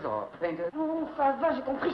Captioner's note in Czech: mluví francouzsky